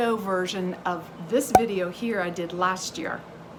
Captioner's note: picture pops